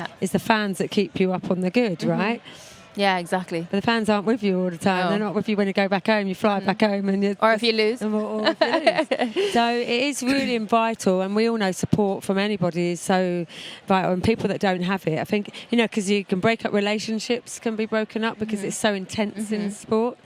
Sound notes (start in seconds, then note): 8.4 laughing